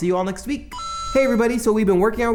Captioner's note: mario coin chime